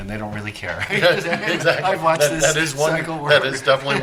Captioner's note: laughter